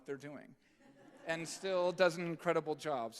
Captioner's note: audience chuckling